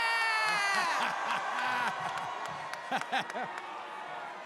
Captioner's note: crowd cheers